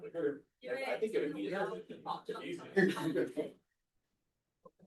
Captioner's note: laughter